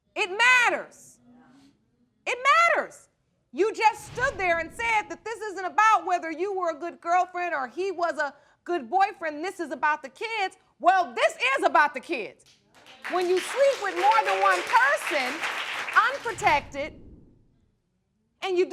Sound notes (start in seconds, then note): 11.0 crowd applauding